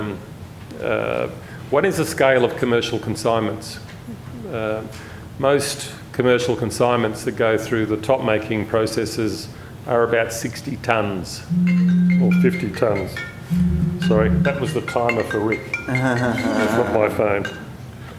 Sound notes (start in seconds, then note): 13.3 phone ringing